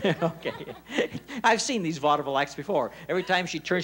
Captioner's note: laughs